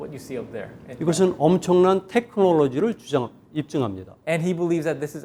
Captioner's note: speaking in Korean